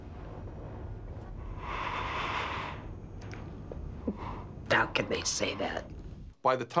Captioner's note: inhales